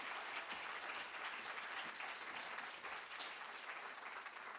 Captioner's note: applause